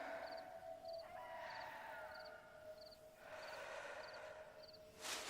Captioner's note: bird hooting